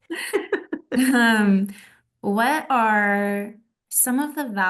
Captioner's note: laughter